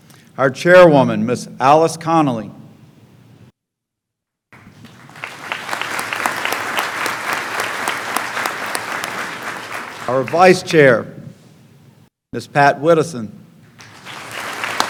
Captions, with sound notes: our Chairwoman, Mrs. Alice Connolly [clapping] our Vice Chair, Mrs. Pat Widdowson.